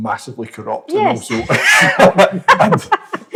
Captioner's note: laughter